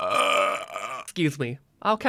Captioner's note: long Burp